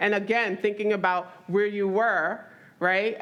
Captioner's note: none